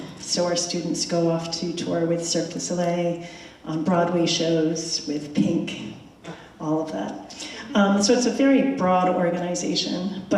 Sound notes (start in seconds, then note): none